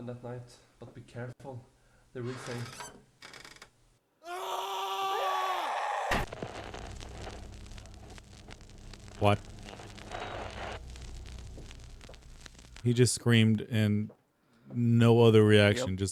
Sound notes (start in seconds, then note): 4.2 screaming; 6.1 crashing; 10.3 crashing